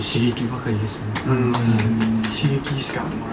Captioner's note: members agreeing